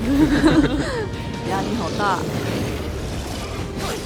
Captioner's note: laughs